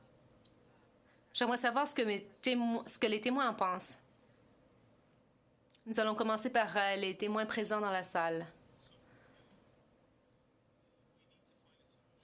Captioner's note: speaking French